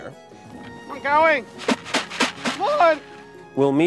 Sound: seeds shaking; man yelling

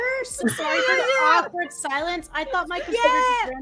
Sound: laughter

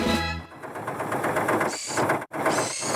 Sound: engine Running

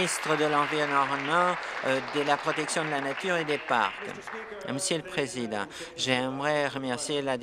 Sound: applause

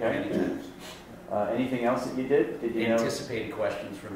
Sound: voiceover

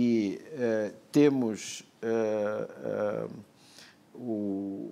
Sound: speaking portuguese

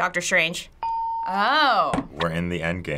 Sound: hitting bell; ding

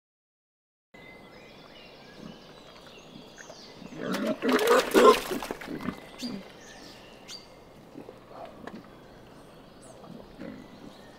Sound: wild boar squeak

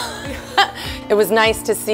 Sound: laughter

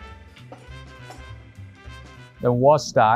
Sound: glass clinking

